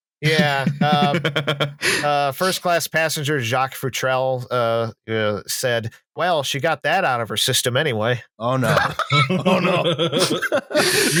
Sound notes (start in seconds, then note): 0.2 laughs; 8.6 laughter; 8.9 laughs, brief but intense